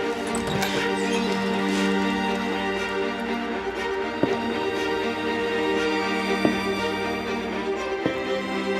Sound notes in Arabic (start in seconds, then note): 0.2 أصوات تنفس إفنان; 0.2 يفتح الباب; 6.3 خطوات